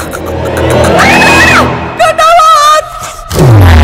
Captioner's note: Screams